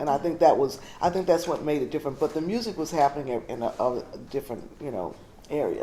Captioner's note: stutters